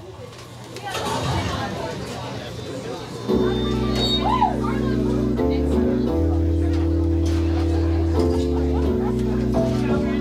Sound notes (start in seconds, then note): 0.2 crowd chattering; 4.1 audience cheering; 4.2 gentle rhythmic music; 7.1 crowd chattering continues; 10.0 gentle rhythmic music continues